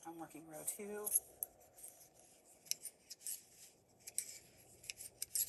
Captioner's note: needles clicking